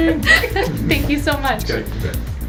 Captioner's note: laughter